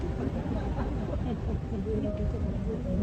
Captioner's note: audience Laughing